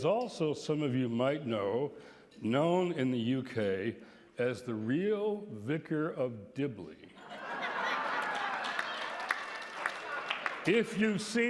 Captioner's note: laughter, applause